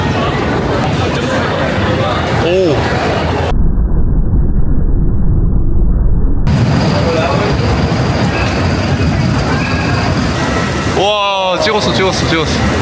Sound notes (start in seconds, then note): 4.5 the sound of the scary thunder; 7.3 the sound of the sky is ominous